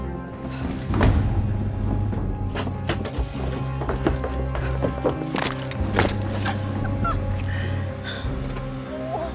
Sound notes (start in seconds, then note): 3.0 door thuds; 5.7 bone cracks; 8.8 whimpers